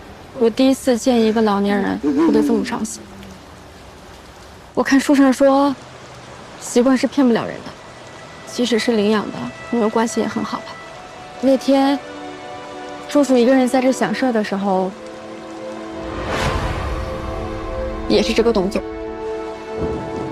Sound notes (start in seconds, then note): 1.9 cry so heartbrokenly